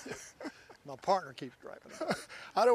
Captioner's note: chuckling